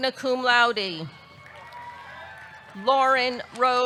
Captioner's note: audience cheering